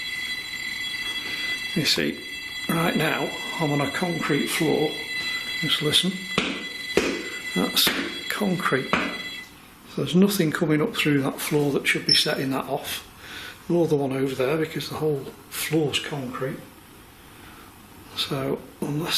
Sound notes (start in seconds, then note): 6.3 foot stomps